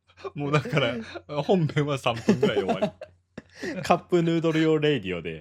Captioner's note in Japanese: 笑い